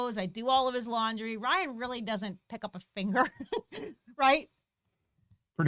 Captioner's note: laughs